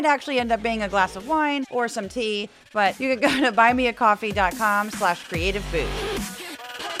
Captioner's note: laugh